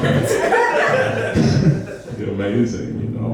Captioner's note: laughing